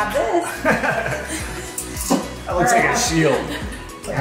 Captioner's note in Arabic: يضحك أبي